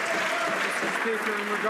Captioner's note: some Applause